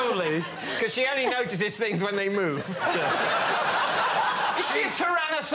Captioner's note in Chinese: 笑声